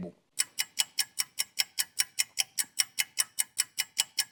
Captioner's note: timer clicking